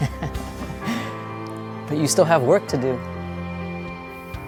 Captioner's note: laughs